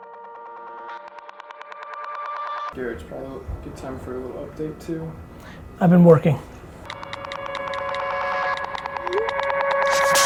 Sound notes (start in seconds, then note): 6.9 phone texting